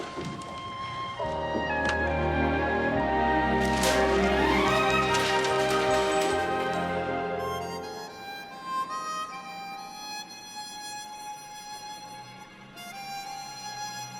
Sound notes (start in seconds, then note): 0.2 soft music; 3.5 paper shuffling; 7.0 soft music continues